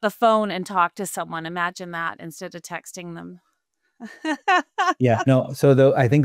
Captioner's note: laughing